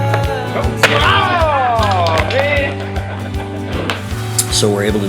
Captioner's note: yelling in frustration